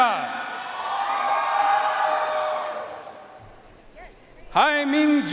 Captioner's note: audience cheering and applauding